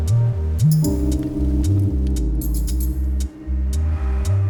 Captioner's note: fire crackling